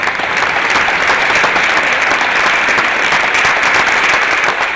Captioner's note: applause